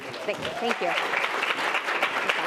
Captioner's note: audience applauds